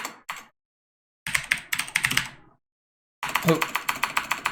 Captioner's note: types keyboard